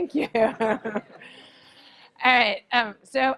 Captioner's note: laugh